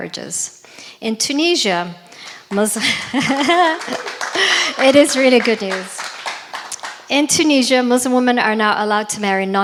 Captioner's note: laughs